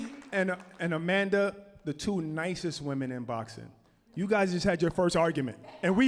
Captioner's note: applause